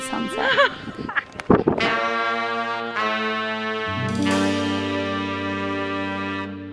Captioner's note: laughing; upbeat music